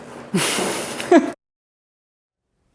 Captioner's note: laughs